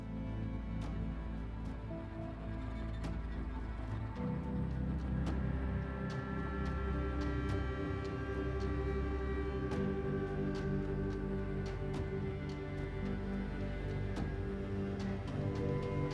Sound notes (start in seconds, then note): none